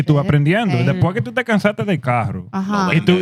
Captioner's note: speaking Spanish